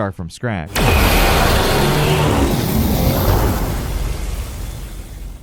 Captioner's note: electricity crackling